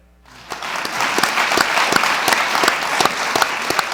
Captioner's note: audience claps